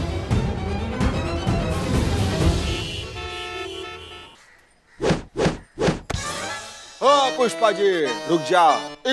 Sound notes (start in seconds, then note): 2.5 traffic noises; 5.0 whooshing